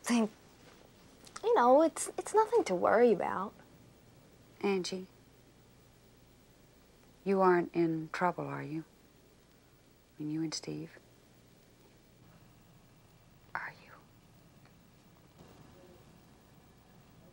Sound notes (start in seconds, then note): none